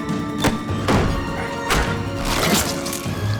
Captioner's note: Paul screams; intense music; fist thuds; body thuds; flesh squelching